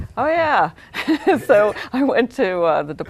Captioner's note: laughing